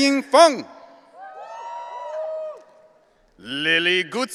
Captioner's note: audience cheering